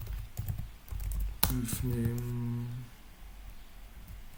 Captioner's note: typing noise